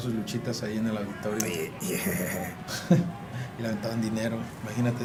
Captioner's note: laugh